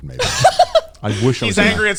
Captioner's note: laughing